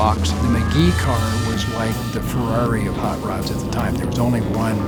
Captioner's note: pat